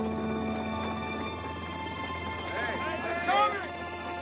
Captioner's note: soldiers talking